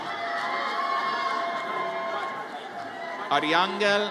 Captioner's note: audience cheers